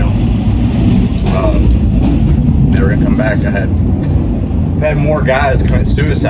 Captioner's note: wind drowns out other sounds